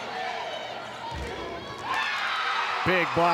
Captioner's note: players shouting indistinctly; ball thumping; audience cheering